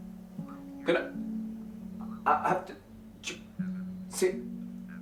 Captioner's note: Evan stutters